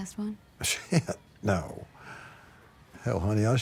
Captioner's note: laughs